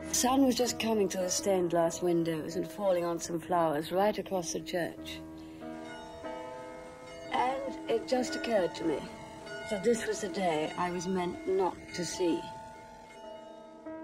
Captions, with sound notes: The sun was just coming through the stained glass windows and falling on some flowers right across the church. (church bell tolls) And it just occurred to me, that this was the day I was meant not to see.